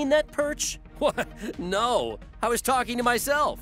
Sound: chuckles

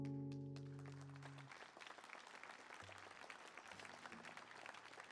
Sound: applause

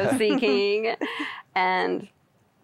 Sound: giggling

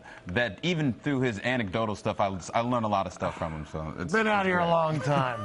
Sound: laughing

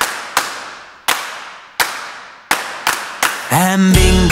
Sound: clapping five times; clapping five times

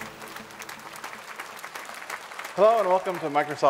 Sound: applause

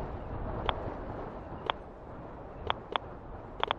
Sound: slow Geiger counter click

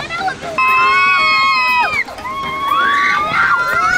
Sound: screaming

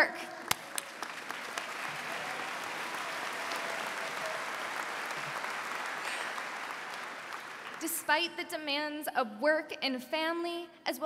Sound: applause

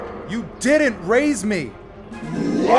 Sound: animal roar

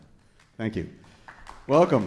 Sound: audience clapping

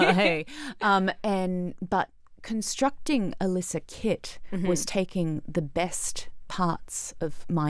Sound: both laughing

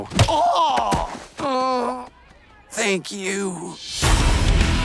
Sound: groans

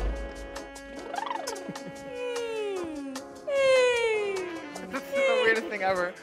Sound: upbeat jazz background music; contestants making playful sounds

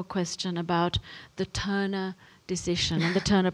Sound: chuckles

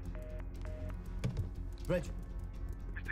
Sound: taps

